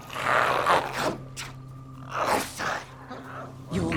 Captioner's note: growls